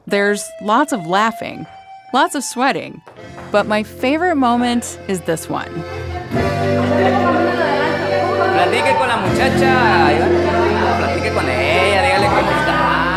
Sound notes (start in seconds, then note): 8.6 speaking in foreign language